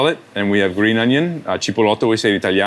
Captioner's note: speaks Italian